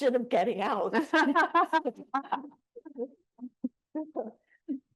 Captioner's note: panelists laughing